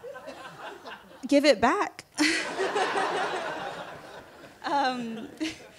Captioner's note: laughter